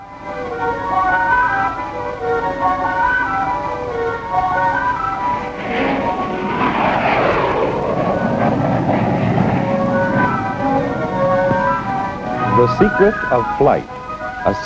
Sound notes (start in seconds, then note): 0.0 pleasant music; 6.0 plane engine roaring